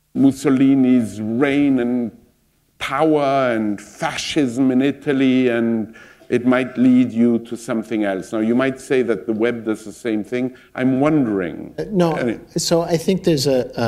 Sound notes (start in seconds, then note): none